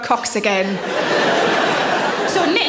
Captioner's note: audience laughs